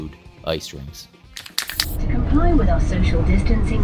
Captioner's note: bus announcement